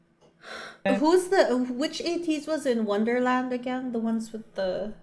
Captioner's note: sigh